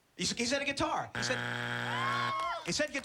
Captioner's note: buzzer